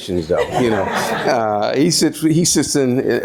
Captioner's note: audience laughs